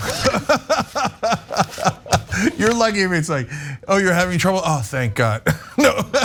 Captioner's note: laugh; laugh